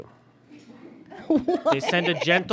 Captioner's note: giggles